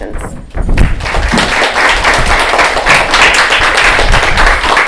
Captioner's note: applause